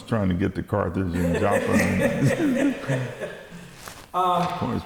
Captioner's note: laughing